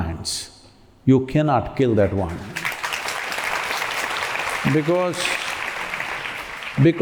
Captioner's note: applause